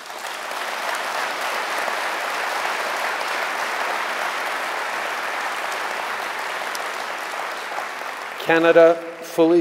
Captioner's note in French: Applaudissements